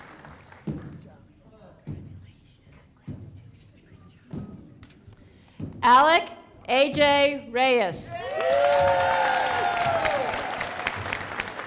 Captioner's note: applause